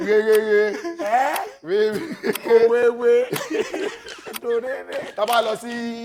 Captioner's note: laughs